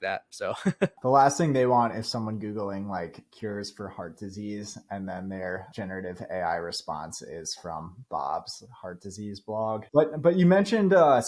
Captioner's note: speaking